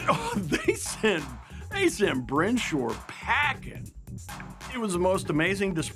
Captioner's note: laughing